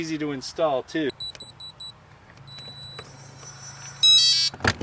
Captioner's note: key pad beeping